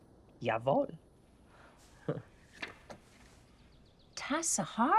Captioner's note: chuckles